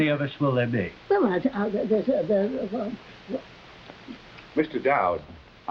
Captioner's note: Veta muttering